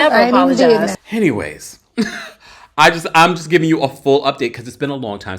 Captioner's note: laughs